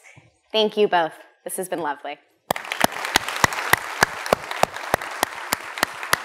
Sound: applause

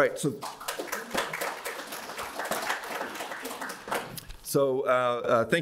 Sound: crowd clapping

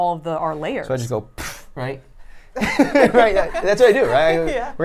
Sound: laughs

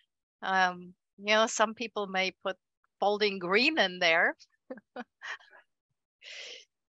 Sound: chuckles

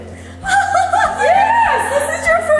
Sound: laughing

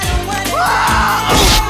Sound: Ron screams

